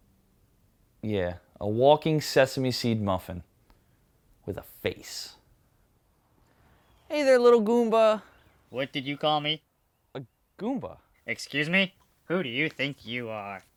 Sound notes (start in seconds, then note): none